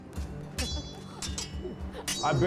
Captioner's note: laughing; swords clanging